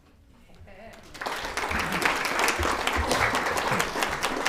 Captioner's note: all applauding